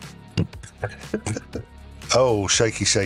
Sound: laughing

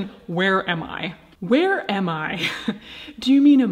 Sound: chuckling

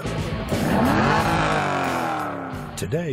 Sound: engine revving

